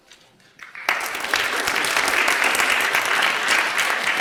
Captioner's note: applause